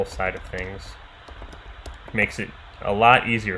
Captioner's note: keyboard clicking